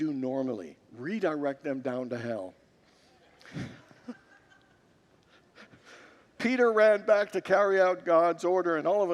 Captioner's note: congregants laugh